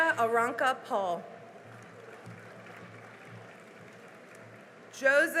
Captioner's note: cheering and applause